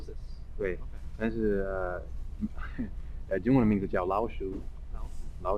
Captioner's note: mandarin